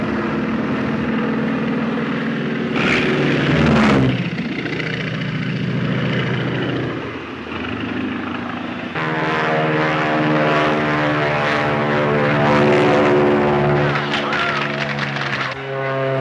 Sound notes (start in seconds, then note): 0.1 airplanes buzzing; 9.1 airplane buzzing; 13.8 audience applauds; 15.9 airplane buzzing